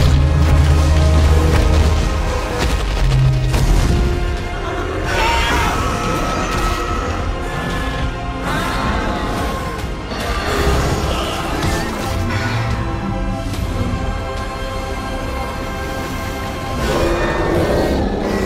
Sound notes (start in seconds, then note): 0.1 apatosaurus stomps and cries; 5.0 Scorpius Rex screeching